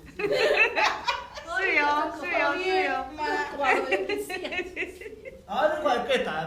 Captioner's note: speaking foreign language